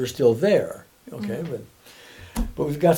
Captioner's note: humming